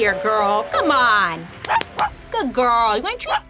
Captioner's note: dog barking